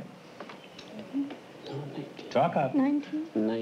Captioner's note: whispering